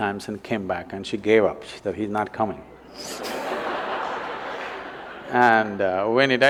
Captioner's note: laughter